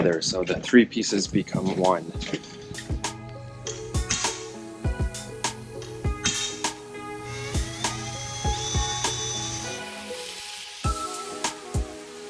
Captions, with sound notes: so the three pieces become one. (upbeat music) (drill buzzes)